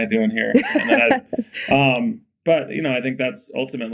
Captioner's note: Mikaela laughing